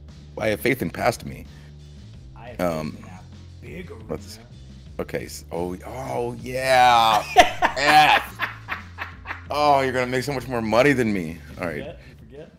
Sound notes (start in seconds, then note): 6.7 laugh